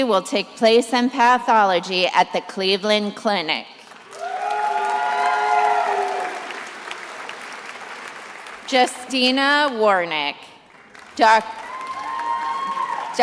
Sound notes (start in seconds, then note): 3.8 attendees applauding and cheering; 10.6 attendees applauding